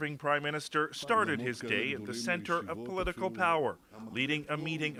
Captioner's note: speaking French